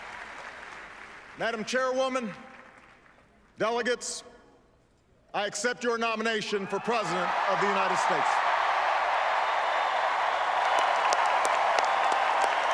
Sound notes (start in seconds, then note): 0.0 applause; 8.0 applause - "Four more years"